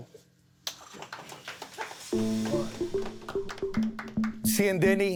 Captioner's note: light applause